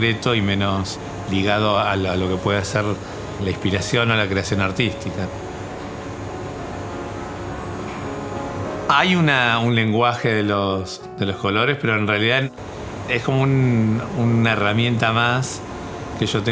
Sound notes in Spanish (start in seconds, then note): 3.3 sonido máquina de impresión; 4.6 sonido ambiente: impresora